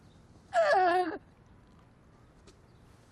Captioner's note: gasping scream